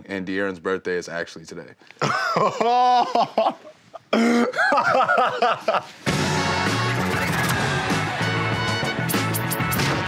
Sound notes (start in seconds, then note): 2.1 laughing; 6.0 upbeat music